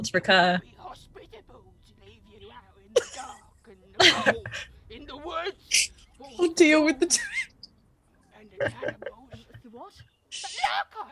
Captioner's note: laughter